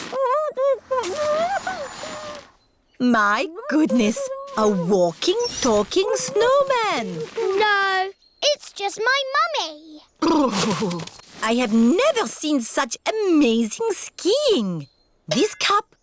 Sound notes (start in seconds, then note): 0.6 muffled groans